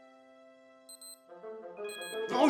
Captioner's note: alarm beeps